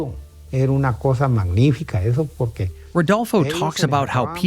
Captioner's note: speaking in foreign language